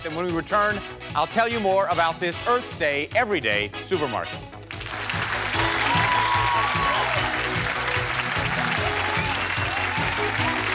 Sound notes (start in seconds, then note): 4.7 cheers and applause; 7.4 upbeat music